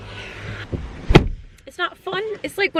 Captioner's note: door slams